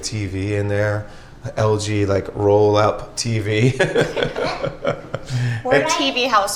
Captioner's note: chuckles